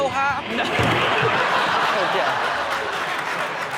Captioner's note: audience laughing; audience cheering and clapping